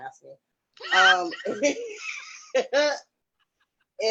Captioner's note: laughs